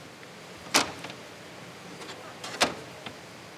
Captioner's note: rattling